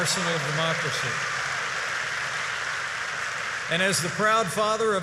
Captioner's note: applause